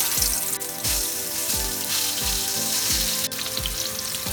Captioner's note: potatoes sizzle